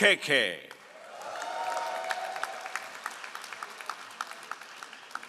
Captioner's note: all applauding